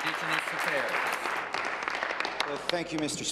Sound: applause

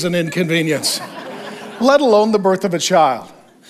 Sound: congregation laughs

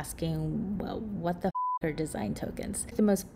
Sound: beep

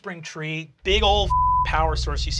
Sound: beeping

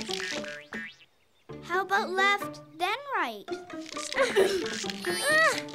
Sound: groans

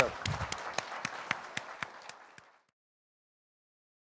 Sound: audience applauding

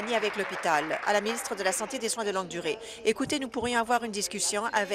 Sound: applause

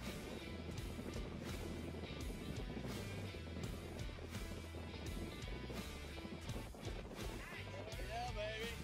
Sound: wind rumbles

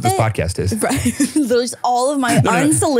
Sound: laughs

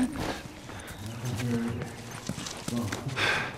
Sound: faint conversation

